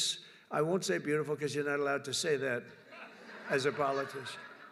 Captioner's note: laughter